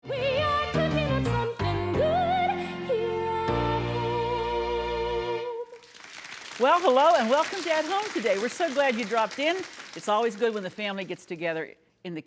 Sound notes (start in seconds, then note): 5.7 applauding